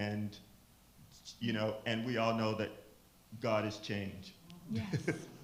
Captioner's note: chuckles